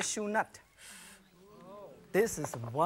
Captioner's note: audience murmurs